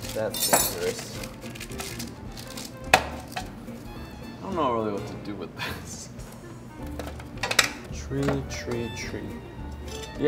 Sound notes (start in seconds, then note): 0.1 utensil clanks; 0.8 paper rustles